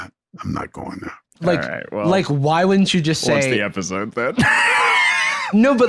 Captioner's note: laughs